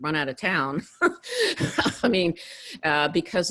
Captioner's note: laughs